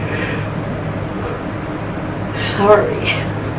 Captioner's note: yawns